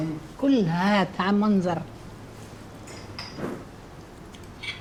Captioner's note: speaks in Arabic